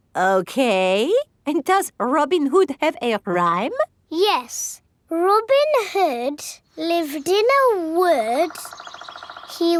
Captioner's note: none